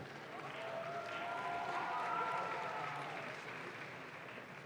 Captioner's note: audience claps